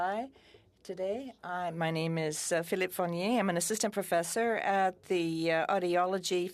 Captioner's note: speaking French